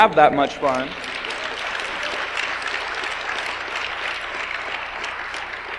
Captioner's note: audience applauds